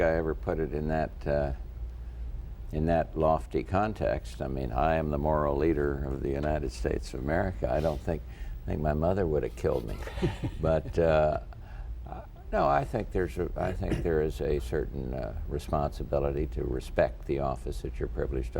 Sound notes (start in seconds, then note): 9.8 laughter